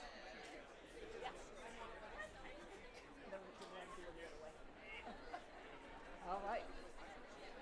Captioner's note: crowd noise